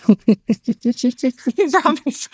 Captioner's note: laughing